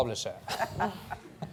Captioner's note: laughter